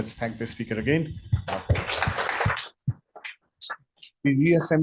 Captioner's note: applause